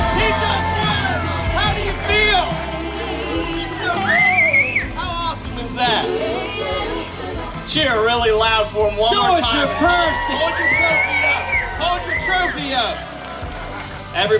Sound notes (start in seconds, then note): 2.9 crowd cheering drowns out winner